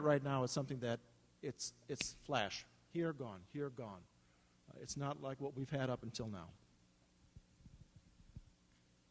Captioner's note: snap fingers